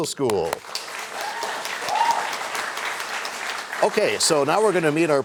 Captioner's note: cheers and applause